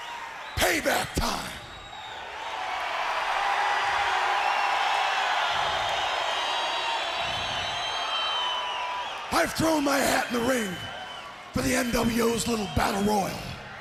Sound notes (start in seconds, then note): 4.1 crowd cheering